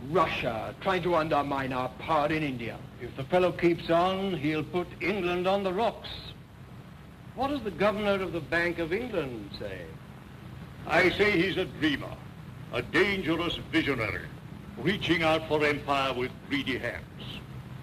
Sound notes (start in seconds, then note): none